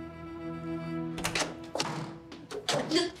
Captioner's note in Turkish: Kapı Açılıyor